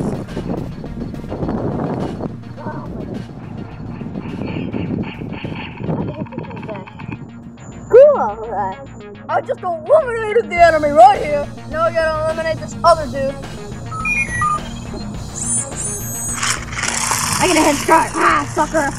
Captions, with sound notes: (laser shots) Cool! (laughs) I just eliminated the enemy, right here! Now I've got to eliminate this other dude. (computer trilling) (mechanical whirring) (wheels rattling) I got a head start. Ha, sucker!